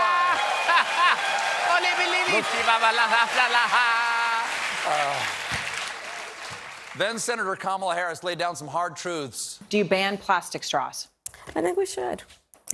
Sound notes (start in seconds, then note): 2.9 laughter; 4.2 applause